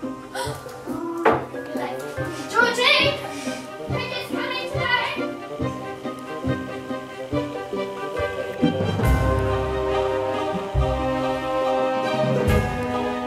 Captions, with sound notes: *gasp* Oh, I'm gonna be late (yelling) Georgie! Pickers coming today